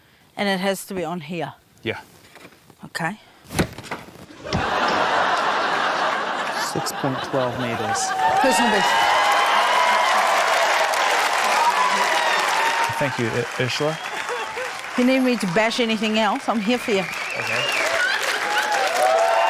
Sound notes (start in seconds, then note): 4.3 laughter; 10.4 cheering, applause